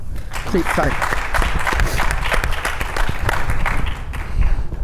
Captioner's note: audience applauding